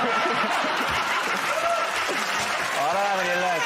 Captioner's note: laughter; cheers and applause